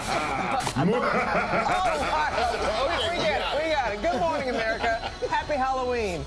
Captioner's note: evil laugh